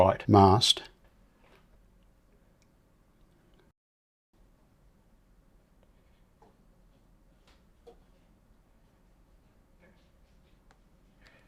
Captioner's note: silence